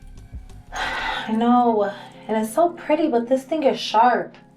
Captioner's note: sighs